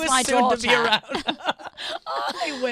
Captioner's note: laughs